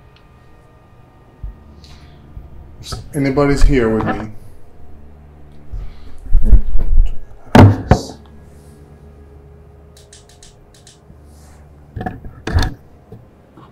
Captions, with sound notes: Is anybody here with me? (device clicking)